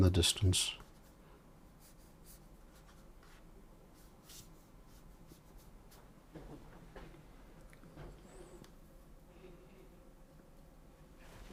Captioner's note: silence